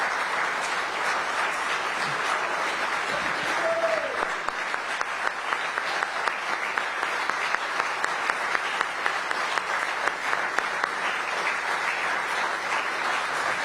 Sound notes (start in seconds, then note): 3.1 applause